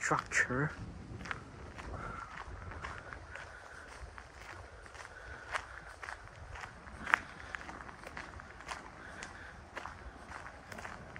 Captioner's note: walking on gravel